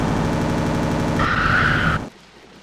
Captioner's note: scream